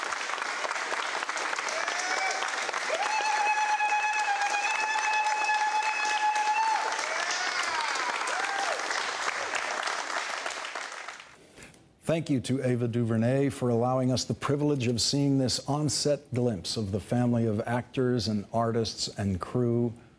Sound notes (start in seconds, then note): 1.6 applause continues